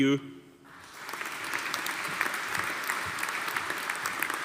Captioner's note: audience applauding